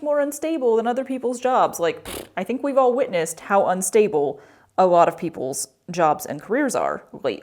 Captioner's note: mouth fart